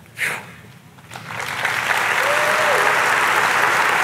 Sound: audience clapping

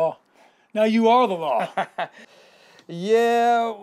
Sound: laughs

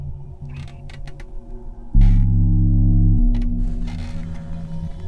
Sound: door squeaking

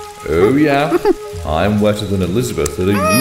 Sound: ape noises

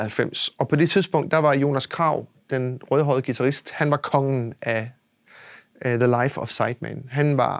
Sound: Danish

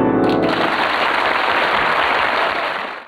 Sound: audience applauding

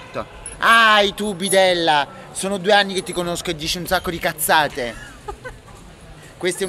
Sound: laughing

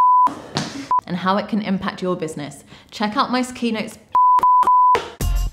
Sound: beep beep beep

